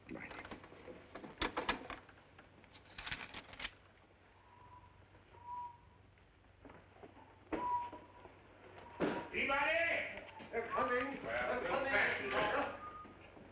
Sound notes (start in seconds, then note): 5.3 charles whistles